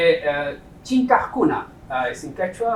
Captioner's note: non-english speech